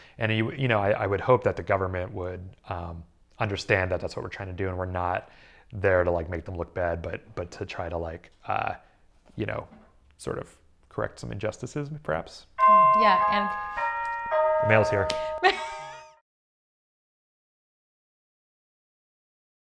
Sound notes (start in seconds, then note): 12.6 doorbell rings